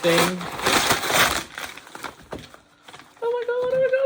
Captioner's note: paper rustling